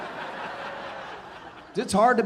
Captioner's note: audience laughing